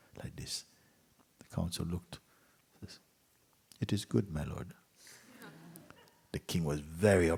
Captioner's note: laughter